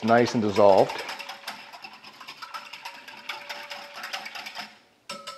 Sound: whisk hitting glass

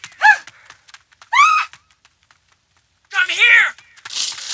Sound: Julia screaming

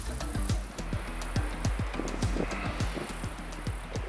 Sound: ocean waves

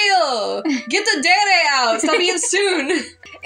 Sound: laugh

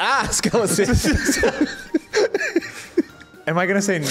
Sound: laughs

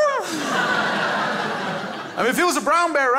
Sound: crowd laughs

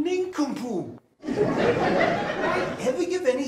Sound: audience laughs

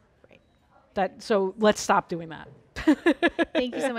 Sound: laughs

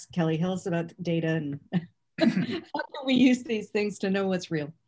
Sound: laughter

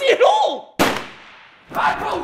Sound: gun shot

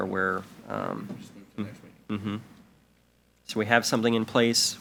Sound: speaks faintly

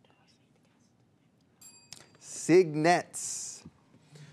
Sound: bell rings

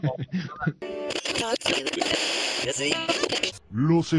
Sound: radio noise

